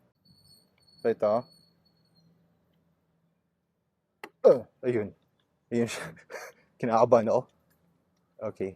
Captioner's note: laughs